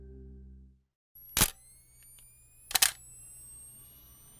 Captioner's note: camera flashing